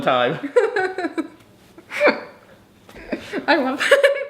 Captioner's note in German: lacht